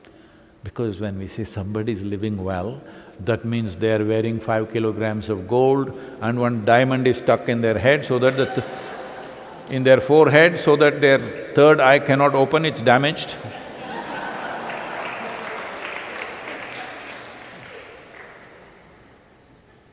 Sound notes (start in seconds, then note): 8.1 laughter; 16.8 laughter/Applause